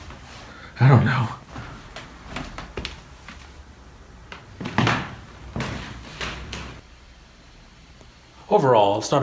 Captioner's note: footsteps creaking on a wood floor